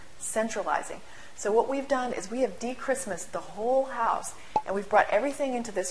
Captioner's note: pop